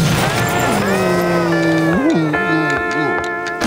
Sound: groaning

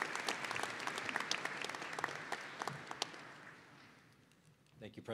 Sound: applause

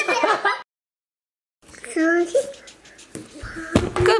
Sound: laughing

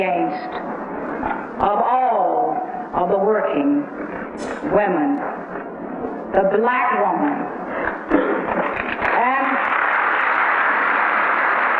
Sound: applause

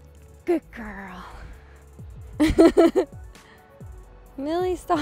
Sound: laughing

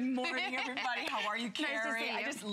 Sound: laughter

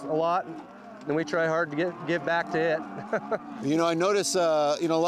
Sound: laughs

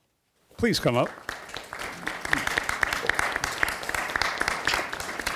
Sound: audience applauding

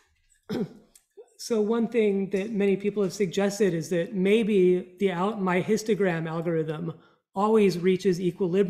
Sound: ahem

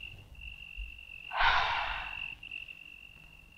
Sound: sighs

